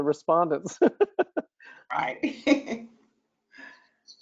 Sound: both chuckles

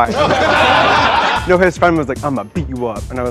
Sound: laughter

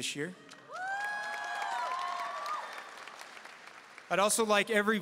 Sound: audience cheering and applauding

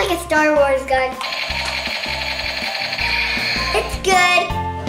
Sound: toy laser gun sound effects

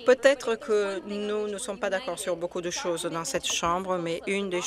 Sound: speaking French

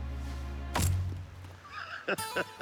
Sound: thunk; laughter

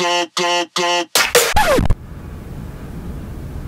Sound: record scratch

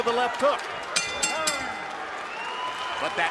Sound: bell rings

